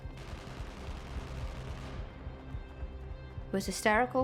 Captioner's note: distant gun fires rapidly